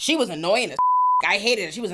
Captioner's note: beep